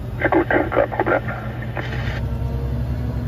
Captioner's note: German talking